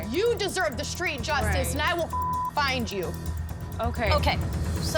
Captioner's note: beep